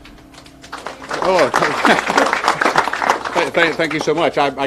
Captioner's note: people applauding